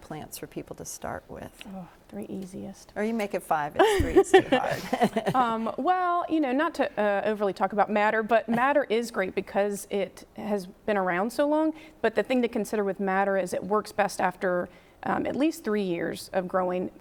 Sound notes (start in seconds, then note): 3.8 chuckles